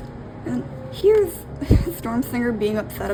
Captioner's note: laughs